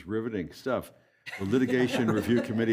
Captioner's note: laughter